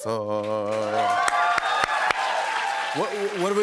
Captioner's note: cheers and applause